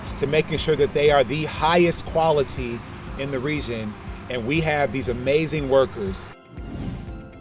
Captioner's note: swoosh SFX